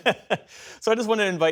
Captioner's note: laughter